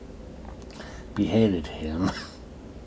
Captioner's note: coughs